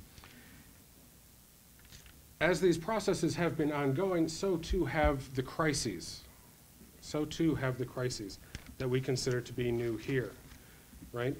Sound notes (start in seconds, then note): none